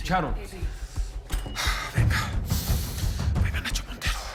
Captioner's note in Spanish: Susurra